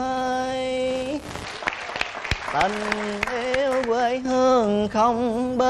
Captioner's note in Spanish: Aplaudir